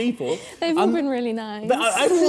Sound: chuckling

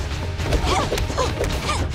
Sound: grunting

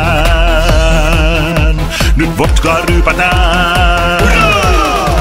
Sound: oo-rah!

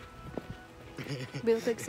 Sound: laugh

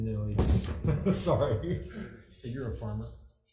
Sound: chuckles

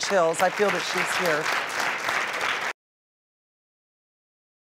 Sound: audience claps

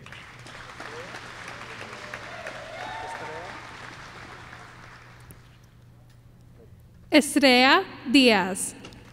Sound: applause

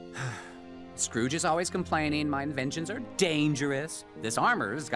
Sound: sighs

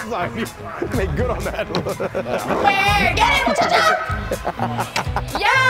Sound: laugh

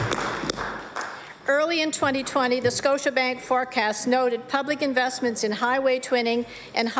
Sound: applause

